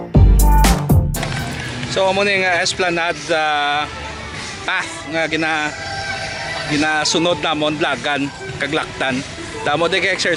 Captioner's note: running or walking